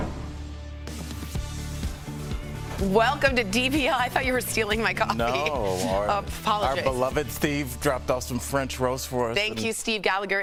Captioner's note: laughter